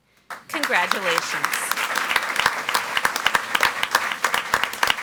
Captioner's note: audience applauds